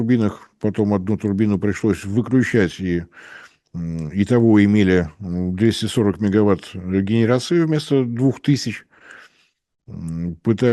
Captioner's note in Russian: фыркает